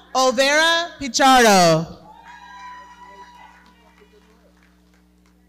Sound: audience cheering

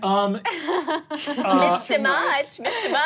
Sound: laughing

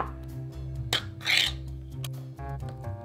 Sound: lid peeling

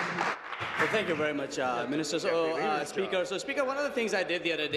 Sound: applause

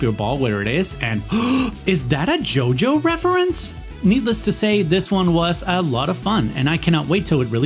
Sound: gasp

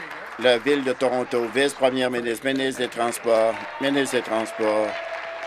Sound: applause

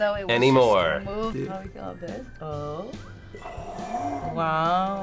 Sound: sighs

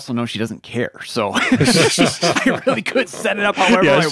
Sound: hosts laughing

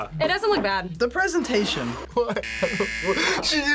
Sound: laughs

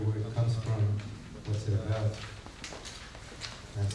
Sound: none

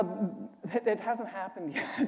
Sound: laughter

